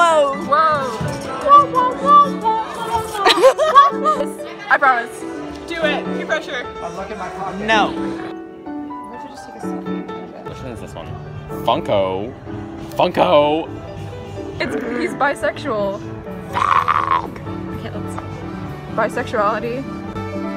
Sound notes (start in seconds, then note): 3.2 laughter